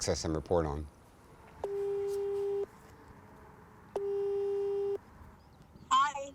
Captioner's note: phone rings